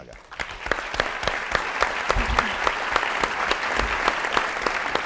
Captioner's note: audience applauds